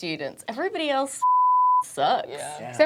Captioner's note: beeping